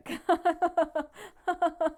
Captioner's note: laughs